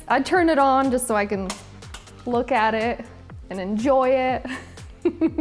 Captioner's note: laughs